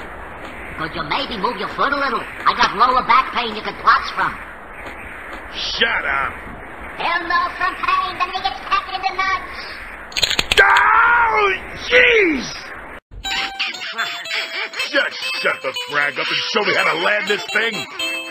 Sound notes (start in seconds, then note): 13.7 the penguins chuckle